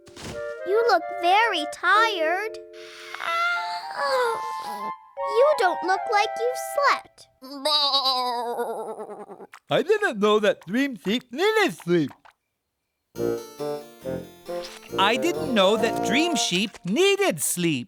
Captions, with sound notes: YOU LOOK VERY TIRED. [ Yawning ] YOU DON'T LOOK LIKE YOU'VE SLEPT. [ Bleating ] I THITHN'T KNOW THAT DWEAM SEEP NEETHED SEEP. I DIDN'T KNOW THAT DREAM SHEEP NEEDED SLEEP.